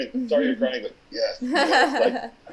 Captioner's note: laughing